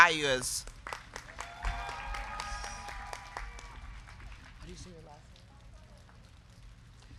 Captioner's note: crowd clapping; crowd cheering